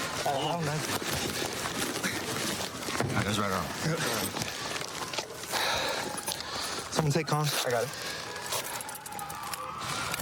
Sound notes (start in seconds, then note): 4.5 sirens in distance